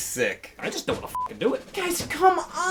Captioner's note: beep